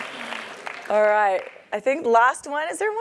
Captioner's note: laugh; applause